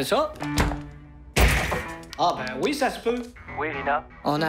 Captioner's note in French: coup violent